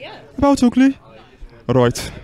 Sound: birmingham Black Country accent

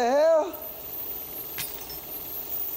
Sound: projector whirring

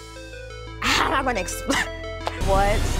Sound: laughs

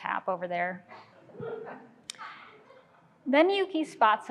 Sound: crowd laughing

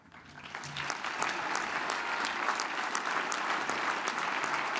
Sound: audience applauds

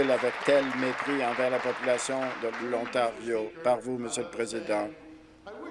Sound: applause

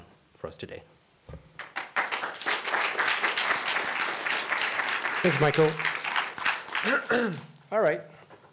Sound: applause

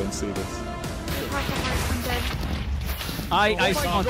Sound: explosion sounds

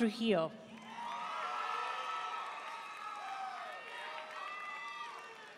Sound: audience cheering and applauding

